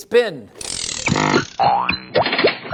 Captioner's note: CRANKING noise; silly factory noises